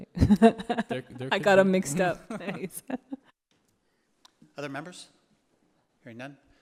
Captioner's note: laughs